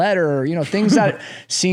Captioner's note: laughing